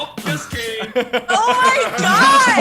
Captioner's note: group laughs